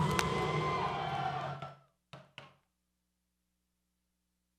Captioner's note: rhythmic clapping